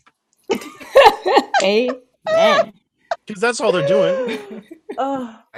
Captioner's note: laugh